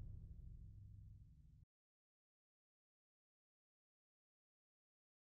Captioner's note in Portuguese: sem áudio